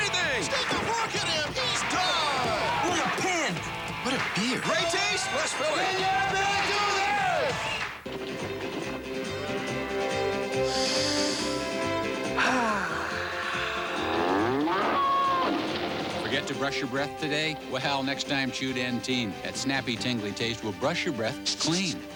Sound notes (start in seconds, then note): 10.6 inhales deeply; 14.0 bellowing